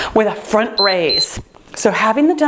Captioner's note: timer beeping